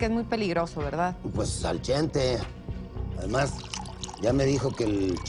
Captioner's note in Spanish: sonido al servirse licor